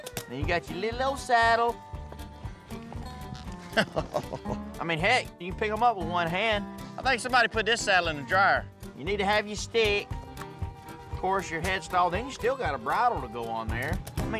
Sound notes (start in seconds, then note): 3.4 chuckles